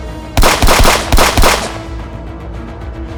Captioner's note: guns firing; dramatic music